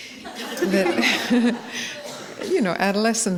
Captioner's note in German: Gelächter